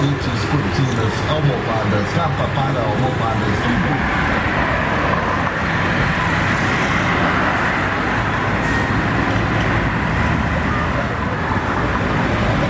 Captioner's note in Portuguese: som de automóveis